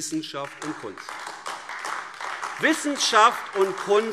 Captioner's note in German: Beifall AfD